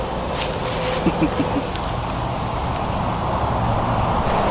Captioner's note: Steven chuckles